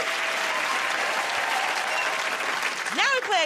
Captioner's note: cheers and applause